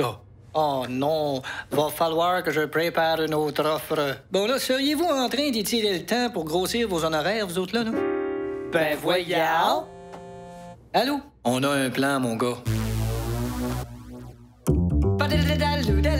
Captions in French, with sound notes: -Oh non! Va falloir que je prépare une autre offre. -Seriez-vous en train d'étirer le temps pour grossir vos honoraires, vous autres là? (en choeur) Bien voyons! (vibration d'un cellulaire) -Allô? -On a un plan, mon gars.